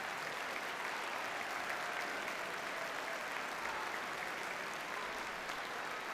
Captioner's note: audience continues to cheer and applaud